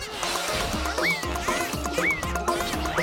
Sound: all cheering

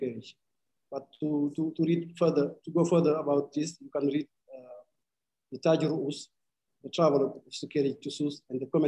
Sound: speaking arabic

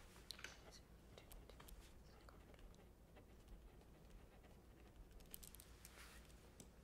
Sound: writing sounds

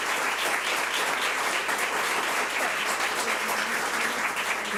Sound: public applauding

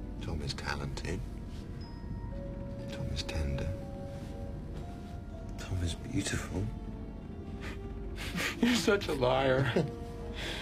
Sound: laughing

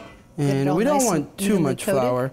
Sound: mummers

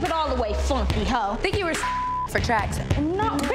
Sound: beep

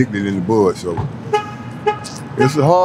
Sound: horn beeps

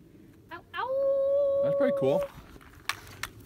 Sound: hiker unleashes howling

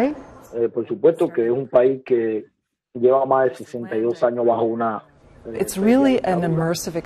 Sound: man speaking world language

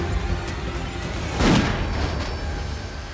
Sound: gunshot

